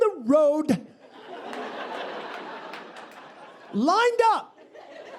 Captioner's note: audience laughing